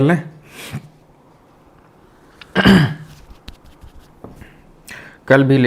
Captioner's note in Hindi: नाक से की जाने वाली आवाज़; गला साफ़ करने की आवाज़